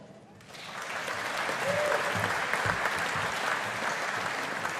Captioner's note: audience applauding